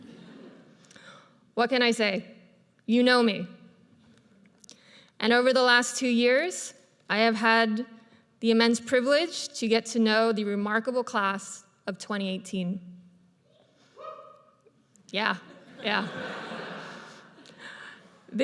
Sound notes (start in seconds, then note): 14.0 audience member hollers; 15.6 audience laughs